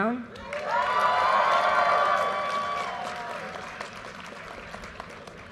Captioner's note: audience cheers and applause